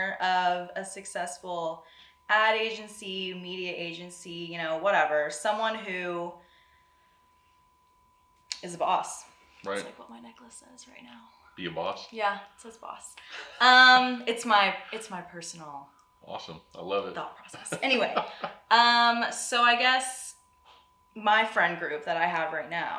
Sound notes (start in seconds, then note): 17.5 laughs